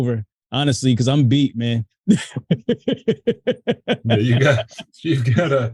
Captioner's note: laughs